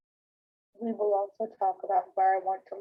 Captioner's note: computerized Voice